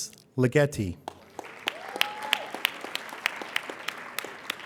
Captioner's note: applauding